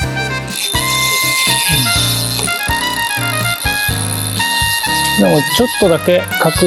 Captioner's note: drag sound